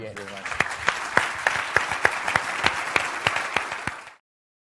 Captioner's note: applause